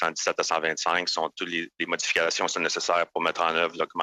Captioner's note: speaking French